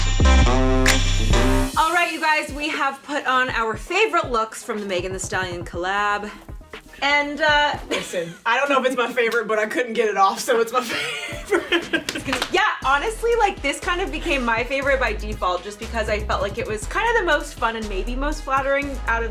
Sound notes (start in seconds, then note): 10.8 laughing